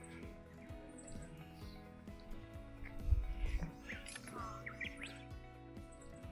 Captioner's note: tears